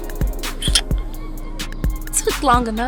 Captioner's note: laughs